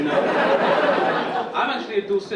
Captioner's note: audience laughing